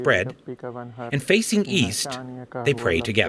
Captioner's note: speaking arabic